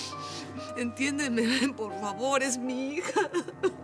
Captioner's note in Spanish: sollozos